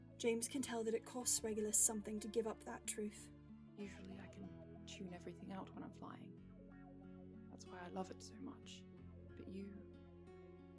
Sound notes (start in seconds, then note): none